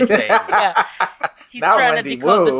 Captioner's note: laughs